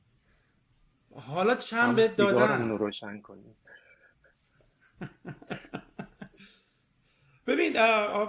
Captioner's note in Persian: خنده